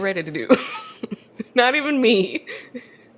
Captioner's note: both laugh